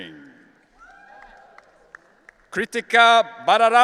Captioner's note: audience cheering